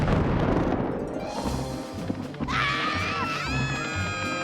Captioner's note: thunder booms